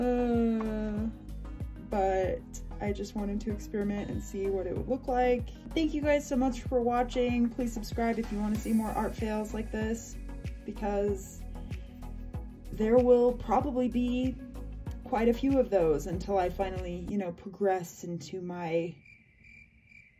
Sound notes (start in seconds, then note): 18.9 crickets